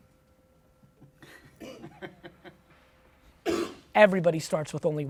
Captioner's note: laughs